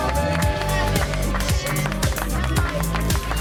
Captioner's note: crew claps